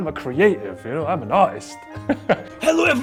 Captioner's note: laughs